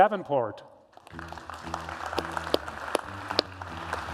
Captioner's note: applause